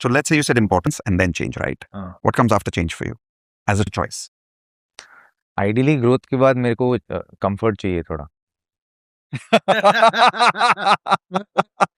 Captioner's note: laughter